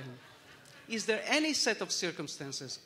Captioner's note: laughter